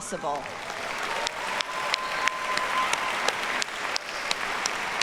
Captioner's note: audience cheers and applauds